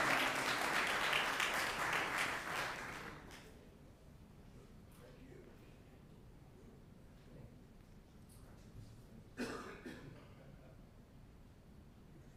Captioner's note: applause